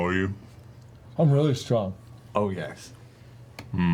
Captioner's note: none